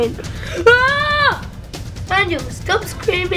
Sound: Daniel screams

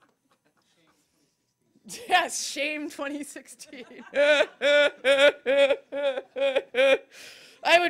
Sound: laughter

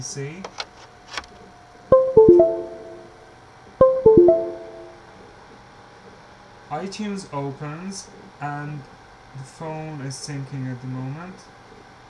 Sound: USB device connected sound

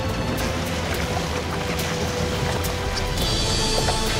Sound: oars rowing

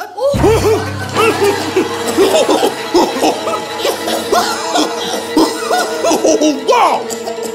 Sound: coughing

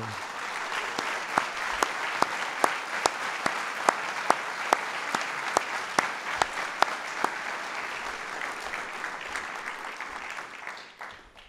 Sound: applause

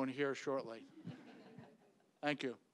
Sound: audience laughing

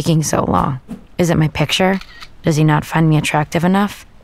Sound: camera shutter clicks

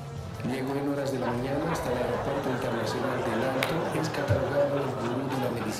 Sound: audience laughing; upbeat music; presenter speaking in Spanish

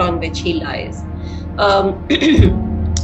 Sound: clears throat

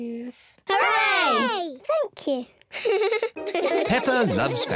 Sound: giggles

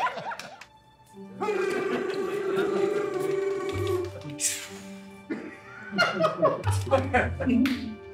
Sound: laughter; trills tongue; laughter

